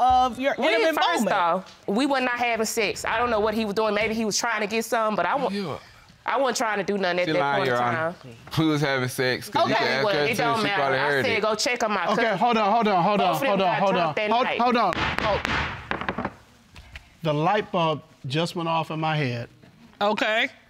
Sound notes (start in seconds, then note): 14.9 gavel banging